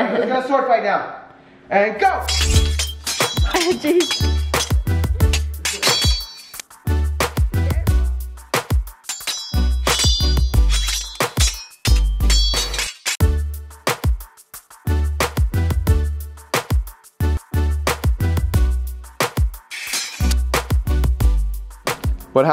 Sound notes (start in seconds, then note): 2.2 swords clanking; 6.0 soft upbeat music; 19.7 swords clanking